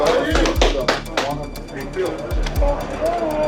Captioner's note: clapping